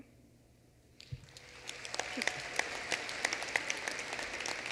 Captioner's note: applause